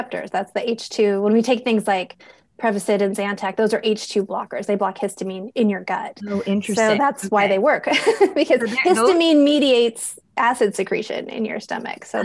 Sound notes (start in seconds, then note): 7.9 laughs